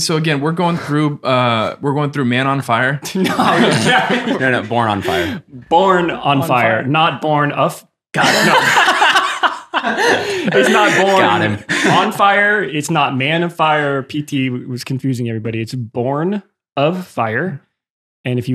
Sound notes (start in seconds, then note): 3.1 laughs happily; 8.2 laughs happily